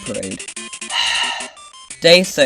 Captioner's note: exhales